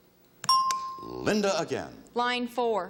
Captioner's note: bell chimes